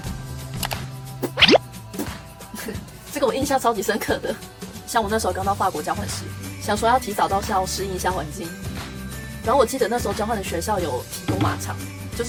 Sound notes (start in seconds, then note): 1.2 farting mouth demonstration